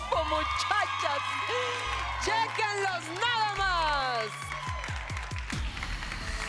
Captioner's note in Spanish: Gritos y exclamaciones